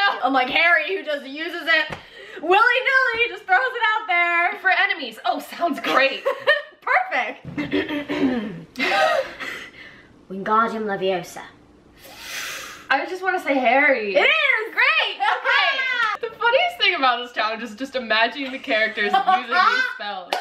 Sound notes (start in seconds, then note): 7.5 laughs; 7.6 clears throat; 8.5 silently laugh; 15.2 laughs; 18.5 laughs